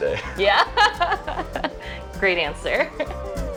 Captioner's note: laughing; upbeat music